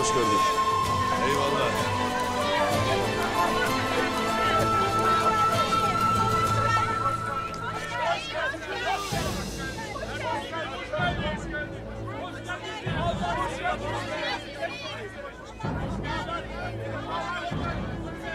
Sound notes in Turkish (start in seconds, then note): 7.5 Hep bir ağızdan; 12.9 Gerilim müziği